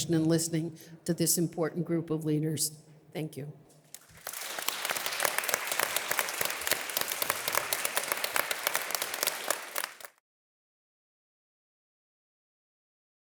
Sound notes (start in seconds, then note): 4.0 audience applause